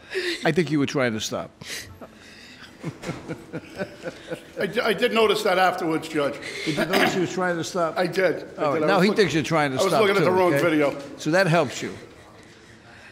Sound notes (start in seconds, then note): 1.7 laughing